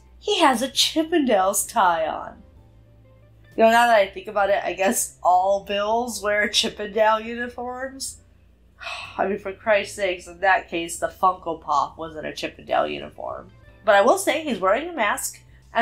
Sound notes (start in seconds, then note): 7.7 sighs